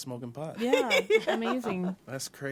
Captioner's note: she laughs